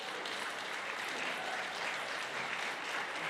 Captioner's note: applause